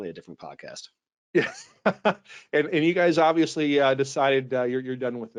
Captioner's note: laughs